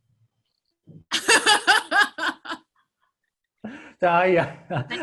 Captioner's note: laughing